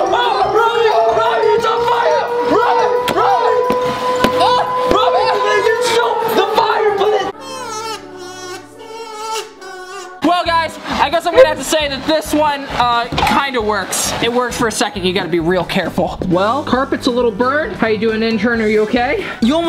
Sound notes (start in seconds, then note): 7.0 yelling; 7.5 sad music begins